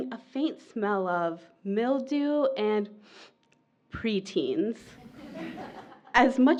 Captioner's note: laughter from audience